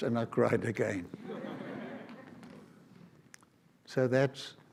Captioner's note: audience laughs